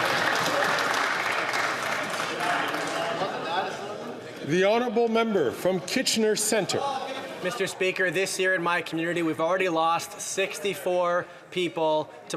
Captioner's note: some Applause